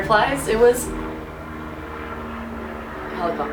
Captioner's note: helicopter noise